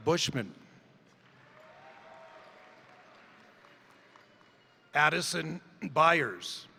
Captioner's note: crowd applauding; crowd cheering